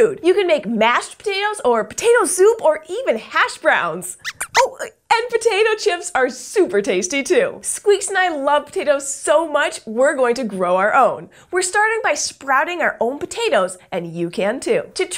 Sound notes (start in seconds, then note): 4.2 squeaks squeaks